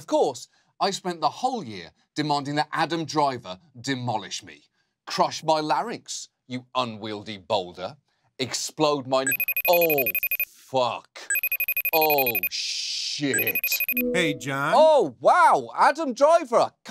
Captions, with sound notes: And, of course, I spent the whole year demanding that Adam Driver demolished me. Crush my larynx, you unwieldy boulder. -Explode my-- -(CELLPHONE RINGTONE) Oh, fuck. -Oh, shit. -(FACETIME CONNECTING SOUND) -Hey, John. -Oh, wow! Adam Driver.